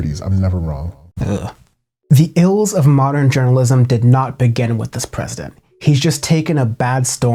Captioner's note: shudders